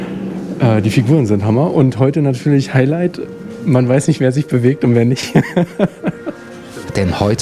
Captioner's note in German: lacht